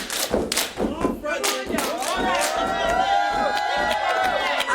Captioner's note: stomping